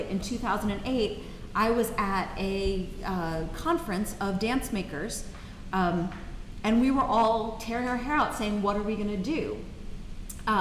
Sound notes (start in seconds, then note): none